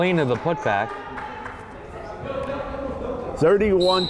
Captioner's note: crowd chattering